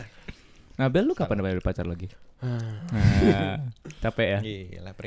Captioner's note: deep sighs